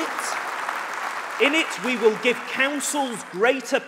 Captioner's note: applause